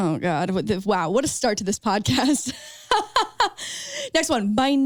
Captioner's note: laughs